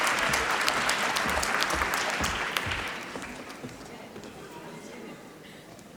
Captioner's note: applause